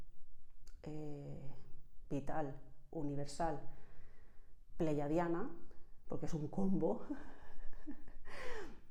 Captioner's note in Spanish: risas